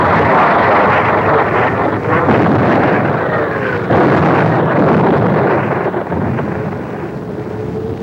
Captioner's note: bombs exploding; bombs falling